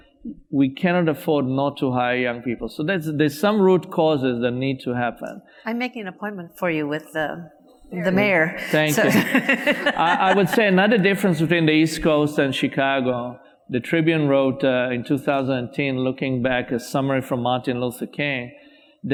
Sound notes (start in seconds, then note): 8.6 audience laughs; 9.6 laughs